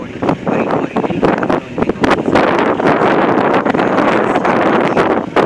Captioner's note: wind